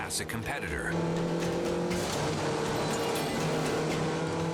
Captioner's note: engines revving